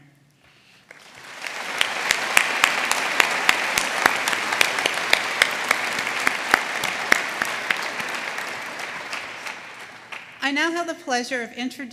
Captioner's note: applause